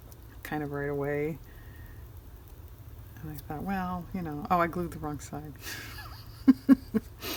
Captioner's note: laughs